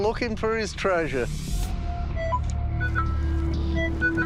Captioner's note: beeping